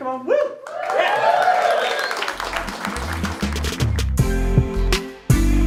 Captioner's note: audience cheering and clapping; smooth music